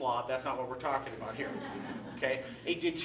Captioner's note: laughter